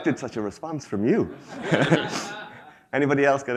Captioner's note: attendees laugh